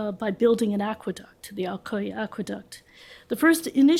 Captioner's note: french; french